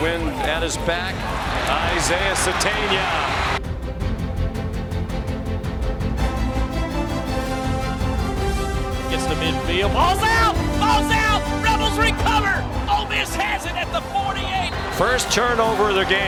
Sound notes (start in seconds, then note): 6.0 team cheering; 11.1 laughs